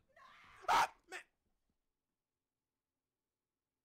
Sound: screaming

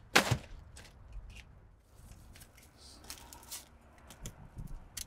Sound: shingles crunching

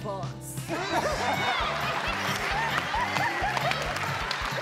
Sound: audience laughing

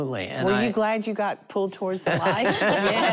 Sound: laughter

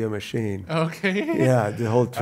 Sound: laughs

